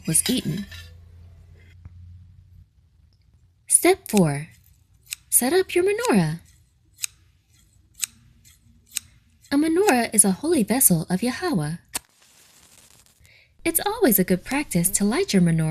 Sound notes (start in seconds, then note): 7.9 scissors clipping; 11.9 match striking